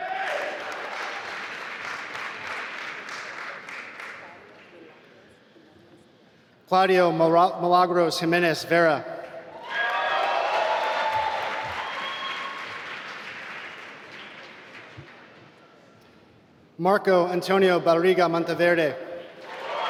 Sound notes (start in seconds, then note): 0.0 applause; 9.6 applause